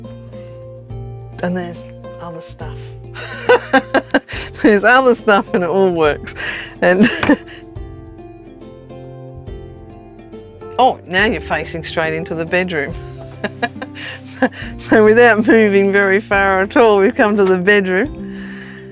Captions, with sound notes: and there's other stuff. (laughs) There's other stuff, and it all works. Oh, now you're facing straight into the bedroom. (chuckles) So without moving very far at all, we've come to the bedroom.